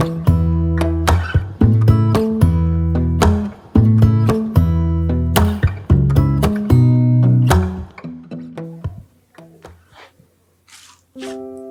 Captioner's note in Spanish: resoplido